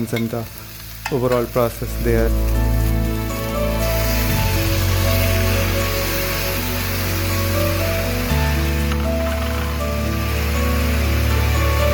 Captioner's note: sizzling